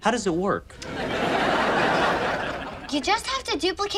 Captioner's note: audience laughs